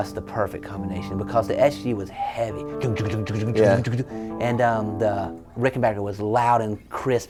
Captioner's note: imitating guitar chugging